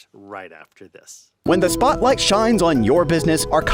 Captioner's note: voice-over